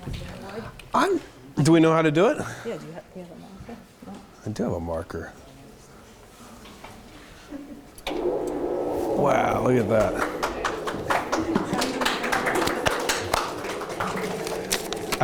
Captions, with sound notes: - Do you want the board? - Do we know how to do it? - Yeah, do you have a marker? - I do have a marker. Wow look at that. (audience applauding)